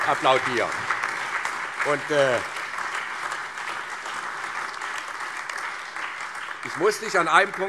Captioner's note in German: Allgemeiner Beifall